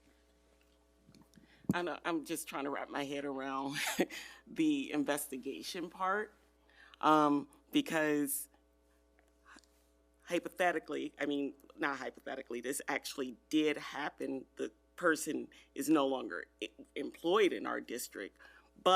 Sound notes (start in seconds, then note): 4.1 laughs